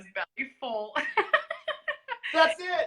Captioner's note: laughs